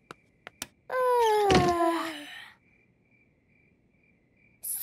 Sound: both yawning; light clicks

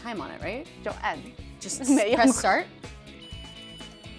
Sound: speaking Mandarin

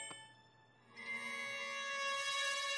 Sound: tinkling

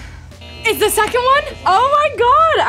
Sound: buzzer sounds

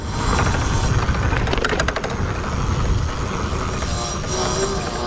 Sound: bike motor revving

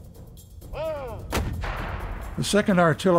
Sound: gunshot blasting

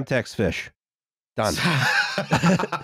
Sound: laughter

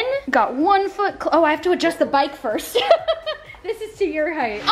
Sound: giggles

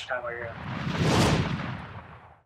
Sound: whoosh

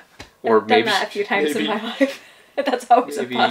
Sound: laughs

